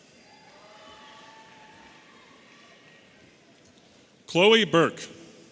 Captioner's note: audience cheering